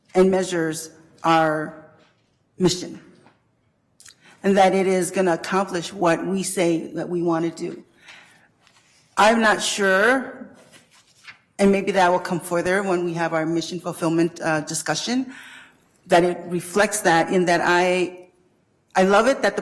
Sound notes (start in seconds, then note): none